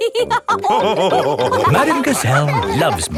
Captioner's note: all laughing